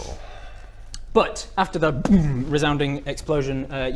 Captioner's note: sigh; boom